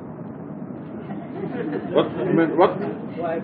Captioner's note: mescitte gülüşmeler